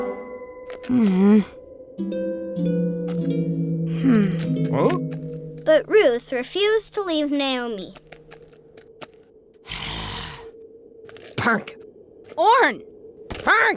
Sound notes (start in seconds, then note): 5.9 voiceover; 9.6 sighs; 12.3 stubborn gibberish